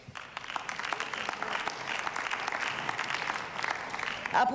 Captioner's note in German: Beifall